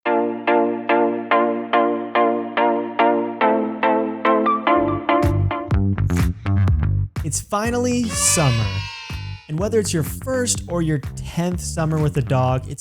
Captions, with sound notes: (bright music) (upbeat music) - It's finally summer (people cheering) and whether it's your first or your tenth summer with a dog,